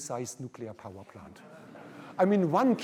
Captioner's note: laughter